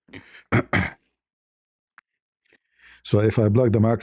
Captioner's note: berdehem